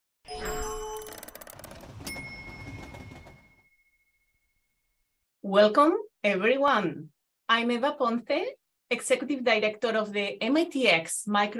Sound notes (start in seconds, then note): 0.3 bright music; 0.9 ticking sound